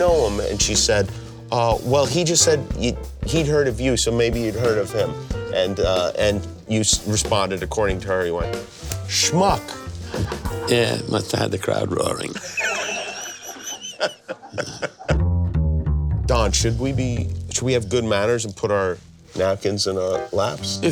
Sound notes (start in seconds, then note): 12.2 laughing